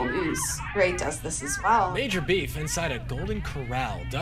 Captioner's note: soundbite of archived recording